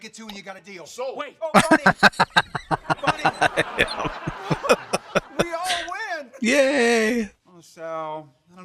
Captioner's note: laughing